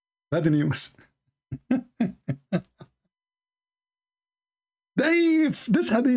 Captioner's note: Ketawa